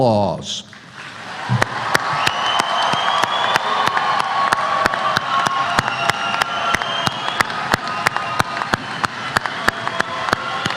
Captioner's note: applause